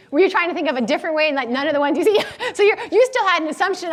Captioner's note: laughs